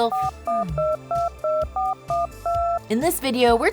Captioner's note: telephone buttons beeping